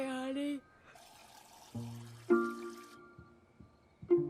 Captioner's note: water sloshing; footsteps pattering